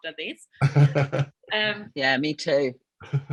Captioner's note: laughing